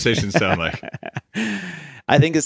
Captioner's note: laughing